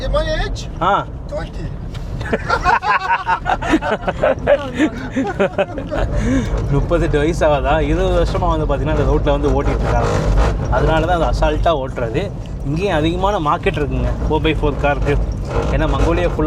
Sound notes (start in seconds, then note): 2.2 laughter